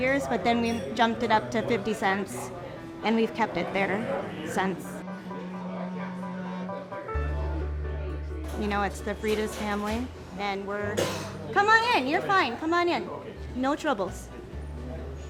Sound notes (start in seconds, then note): 4.9 slow relaxing music; 6.4 people murmuring